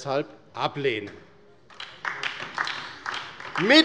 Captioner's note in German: Beifall bei der LINKEN